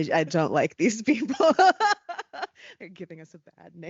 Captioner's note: laughing